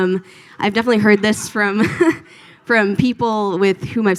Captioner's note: laughs